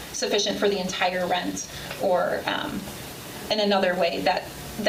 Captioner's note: none